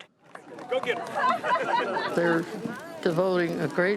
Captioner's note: laughing